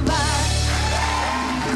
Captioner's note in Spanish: Ovación